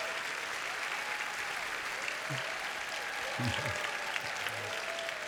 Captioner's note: applause